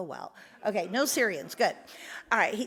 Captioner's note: audience laughs